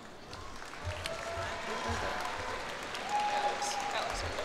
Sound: cheers and applause

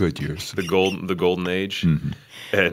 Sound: chuckle

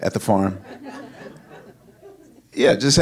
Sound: audience laughing

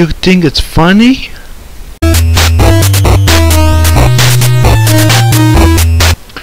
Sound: Heavy's Phone Ring

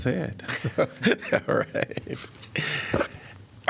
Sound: laughter

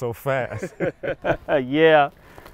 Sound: both laughing

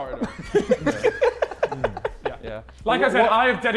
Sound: Sidemen laughing

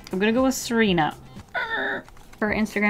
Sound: unassertive screech

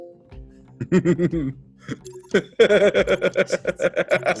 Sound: laugh

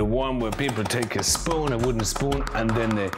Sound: spoon beats pomegranate

